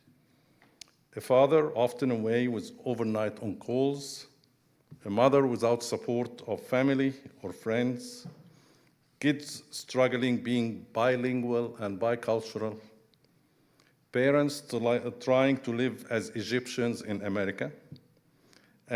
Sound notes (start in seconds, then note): none